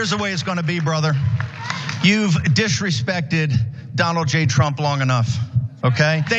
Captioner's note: applause